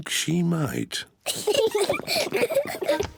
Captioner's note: both giggle